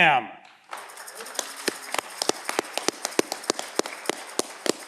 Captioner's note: audience clapping